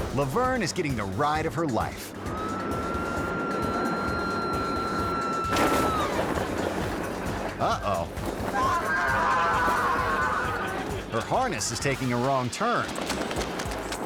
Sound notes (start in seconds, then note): 0.0 dramatic music; 2.3 screaming; 5.4 parachute popping; 5.9 audience laughing; 8.5 screaming